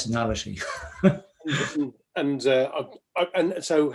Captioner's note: laughs